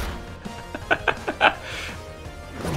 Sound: more laughter

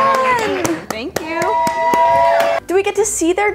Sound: audience cheers

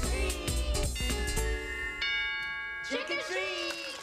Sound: doorbell rings

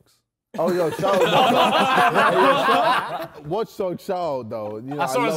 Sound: men laughing

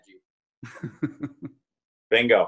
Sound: laughing

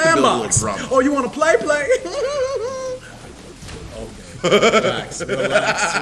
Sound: laugh

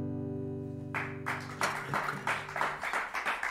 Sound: applause

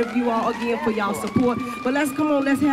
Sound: siren sounding

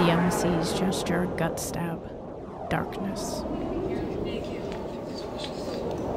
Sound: overheard dialogue and howling wind

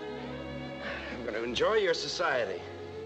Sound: exhales deeply

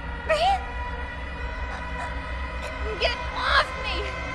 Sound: gasps for air

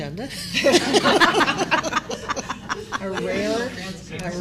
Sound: laughter

